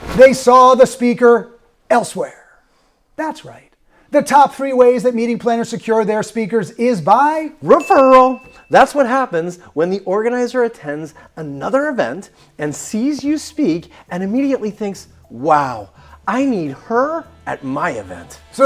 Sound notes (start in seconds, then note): 0.0 drum rolling; 7.7 bell dings